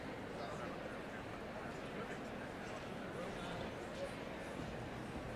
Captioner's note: audience chattering